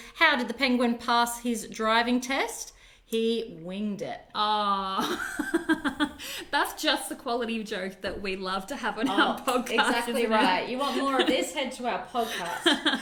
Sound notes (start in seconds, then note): 5.0 laughs